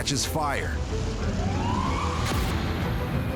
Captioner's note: sirens wailing